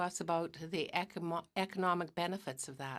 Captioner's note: speaking in french